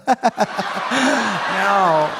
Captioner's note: laughs; audience laughing